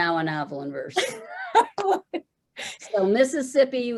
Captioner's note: laughing